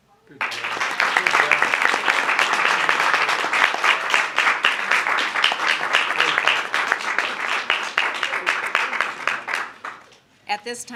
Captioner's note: applause